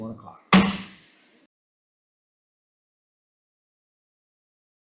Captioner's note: strikes gavel